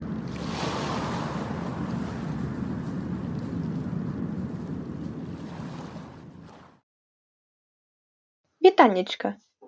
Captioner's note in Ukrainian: звуки хвиль